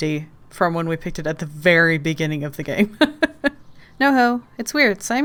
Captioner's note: laughs